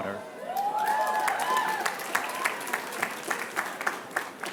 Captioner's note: applause